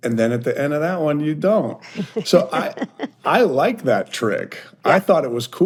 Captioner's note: hosts chuckle